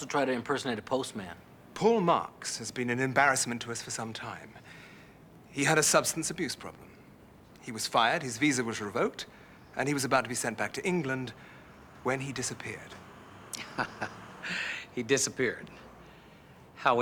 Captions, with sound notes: He also tried to impersonate a postman. Paul Marks has been an embarrassment to us for some time. He had a substance abuse problem; he was fired; his visa was revoked; and he was about to be sent back to England when he disappeared. (chuckles) He disappeared?